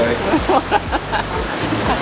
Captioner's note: laughs